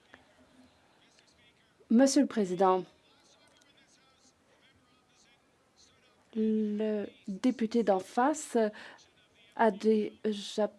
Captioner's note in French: voix de l'interprète